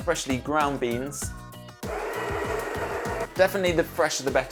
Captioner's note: grinding